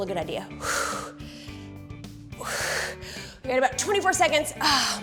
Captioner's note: exhaling